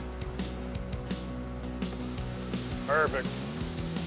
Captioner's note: food sizzling